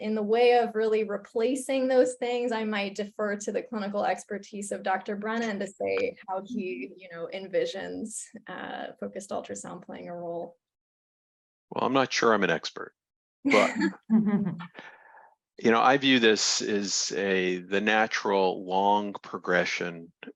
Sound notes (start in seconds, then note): 13.5 chuckle